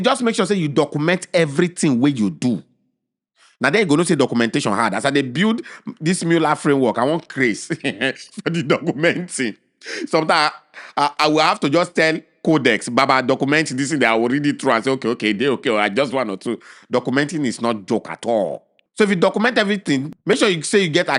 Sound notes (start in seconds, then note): 9.0 chuckles